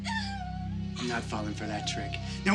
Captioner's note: sobbing